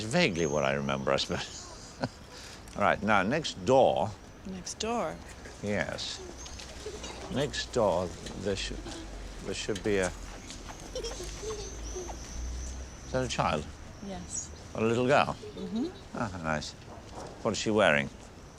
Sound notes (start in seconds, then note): 10.4 children laughing